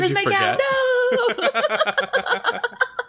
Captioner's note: laughs